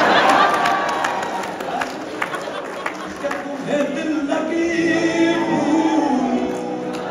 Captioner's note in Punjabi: ਤਾੜੀਆਂ